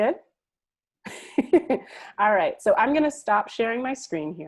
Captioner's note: laughs